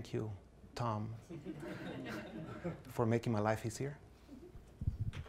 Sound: class laughs

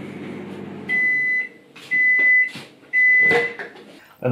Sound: beep beep beep

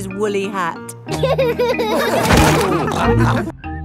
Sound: all laughing

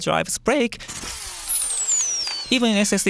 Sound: whizzing noise

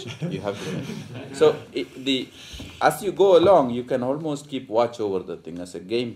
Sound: laughter

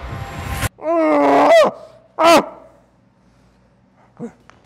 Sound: caveman grunting

